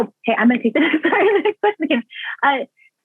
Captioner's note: laughs